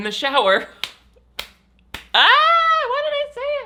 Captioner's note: hand slapping